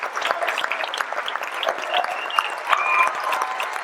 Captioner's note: audience cheering